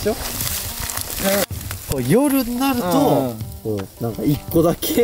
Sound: laughs

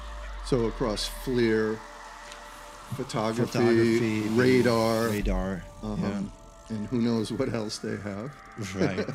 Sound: laughter

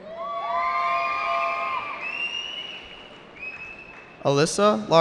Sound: cheering

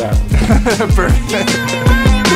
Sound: laughing

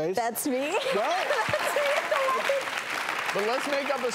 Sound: clapping

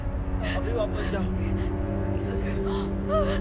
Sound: Googly sobbing

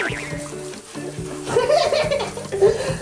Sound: hehehehe

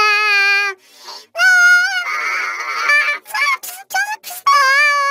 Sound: crying continues

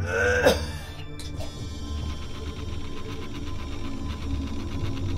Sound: electricity buzzing

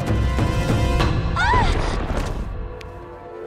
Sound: screaming

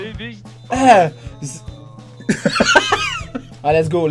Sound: little scream of pain and misery

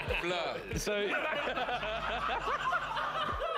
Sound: all laugh

